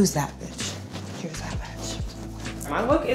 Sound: whispers

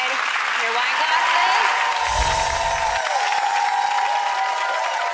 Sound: audience applause

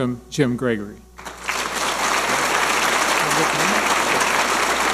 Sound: audience applauding

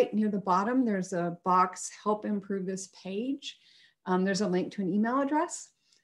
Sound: none

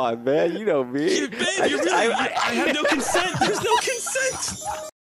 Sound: laughter

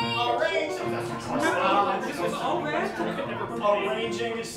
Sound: Humorals All Stammering Over Each Other

